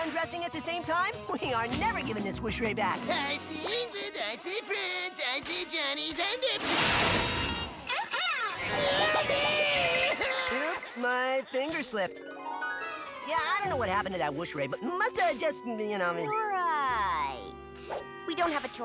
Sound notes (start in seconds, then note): 6.6 whoosh; 7.8 cries